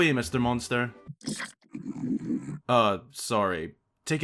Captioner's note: Bokoblin Noises